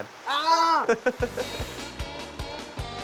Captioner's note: laughter